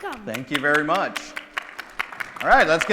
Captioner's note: crowd clapping